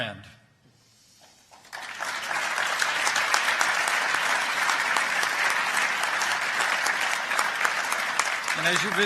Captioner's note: applause